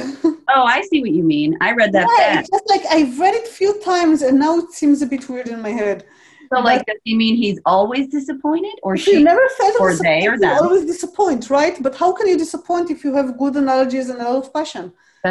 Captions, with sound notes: (chuckles) - Oh, I see what you mean, I read that fast. - Yeah, it's just like I read it few times and now it seems a bit weird in my head. - So like does he mean he's always disappointed or she, or they or them. - If he never fails (speaking faintly) you always disappoint, right? But how can you disappoint if you have good analogies and lot of passion?